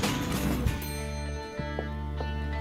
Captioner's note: elevator dinging